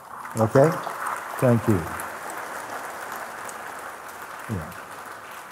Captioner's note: Applaus